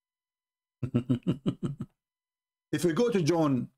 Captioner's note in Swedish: Skratt